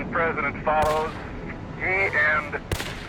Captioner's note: gun bangs